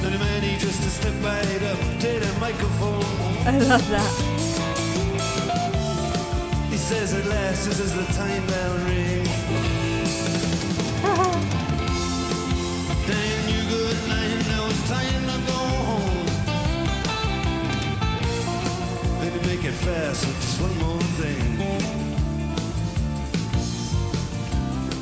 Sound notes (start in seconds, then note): 0.0 upbeat rock music continues; 11.0 laughs; 16.5 upbeat rock music; 21.8 upbeat rock music